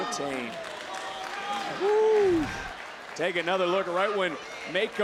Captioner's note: applause